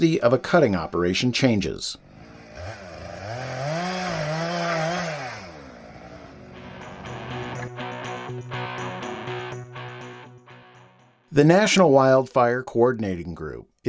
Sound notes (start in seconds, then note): 2.0 chainsaw rattling sound; 6.2 upbeat music